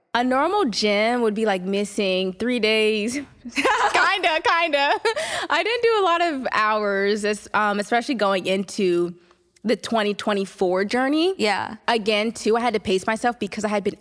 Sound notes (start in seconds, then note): 3.5 laughs